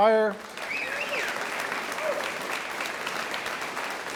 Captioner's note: audience applauds